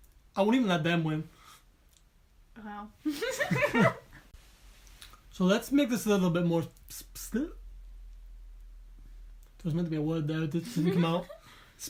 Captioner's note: laughing